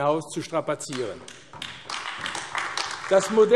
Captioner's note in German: Beifall AfD